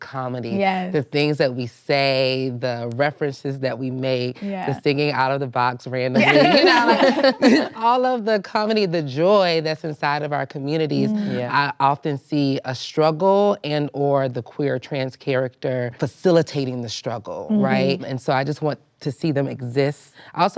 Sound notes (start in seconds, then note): 6.2 laughter